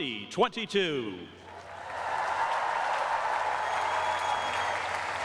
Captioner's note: cheering and applause